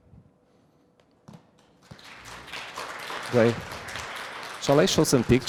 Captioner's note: applause